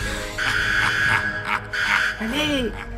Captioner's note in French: SCP-035 rigole